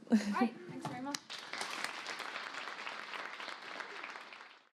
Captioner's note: clapping